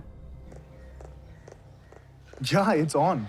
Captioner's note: footsteps